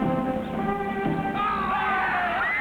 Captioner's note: tense music; hairy men shout; women screaming